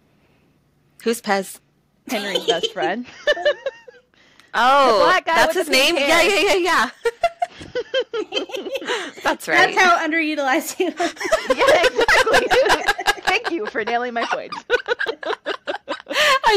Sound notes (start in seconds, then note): 2.1 laughter; 6.9 laughter; 10.8 laughter